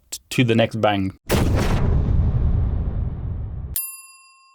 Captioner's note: bang